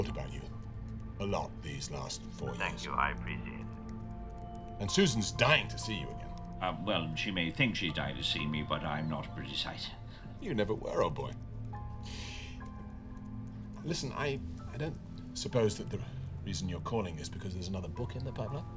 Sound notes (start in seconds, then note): none